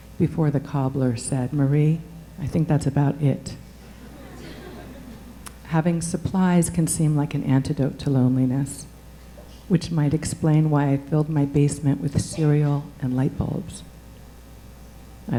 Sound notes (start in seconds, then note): 3.8 audience chuckling